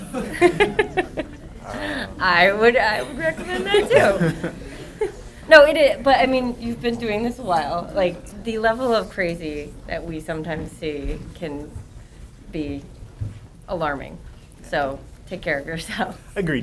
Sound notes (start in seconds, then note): 0.0 laughter; 3.0 laughter